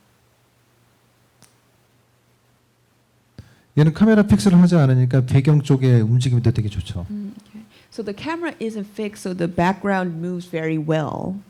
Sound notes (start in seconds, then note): 3.5 speaking korean